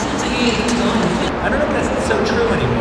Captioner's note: speaking Korean